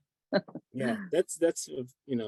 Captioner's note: laughs